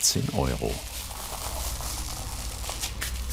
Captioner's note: rattling of pistachios